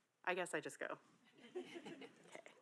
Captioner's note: audience laughing